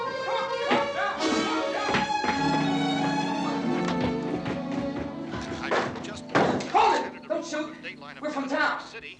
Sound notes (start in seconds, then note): 5.3 man on radio continues